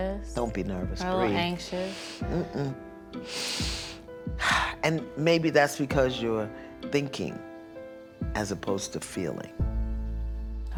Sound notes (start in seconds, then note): 3.2 inhales, exhales deeply